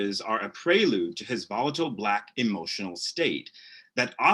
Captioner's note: none